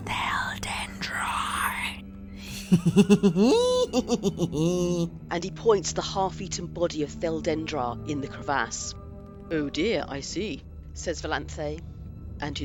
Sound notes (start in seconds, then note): 2.4 laughs